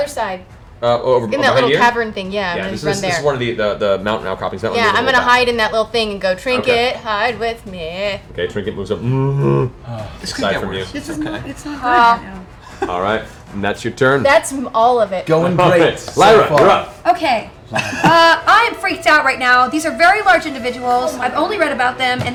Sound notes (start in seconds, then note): 8.9 bear moan; 17.6 laughs